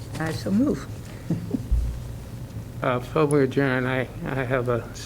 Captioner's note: laughter